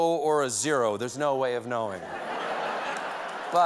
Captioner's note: laughter; cheers and applause